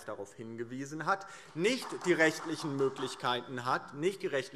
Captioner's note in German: Demonstrativer Beifall